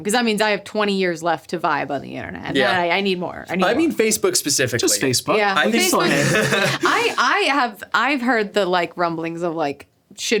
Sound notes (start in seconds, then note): 5.6 laughing